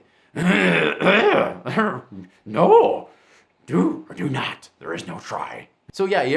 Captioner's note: clears throat